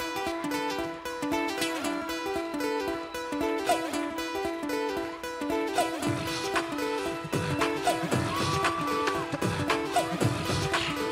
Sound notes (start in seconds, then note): 5.7 beat boxing